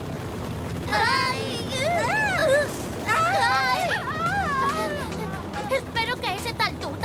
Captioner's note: screaming